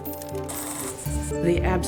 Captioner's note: image crackling